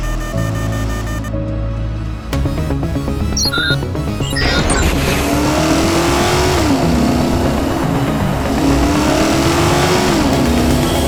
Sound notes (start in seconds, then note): 0.3 frantic beeping; 2.9 beeping; 5.6 engine roaring